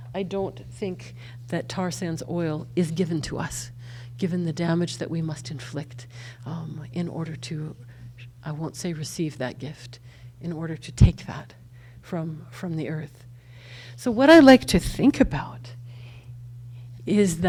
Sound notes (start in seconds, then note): none